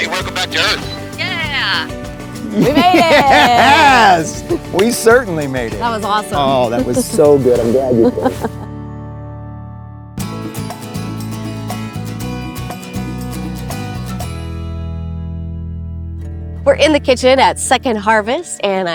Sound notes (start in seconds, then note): 5.5 hands clap; 7.9 laughing; 10.2 uplifting guitar music